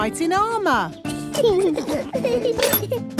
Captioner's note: children giggling